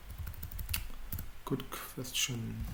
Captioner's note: typing noise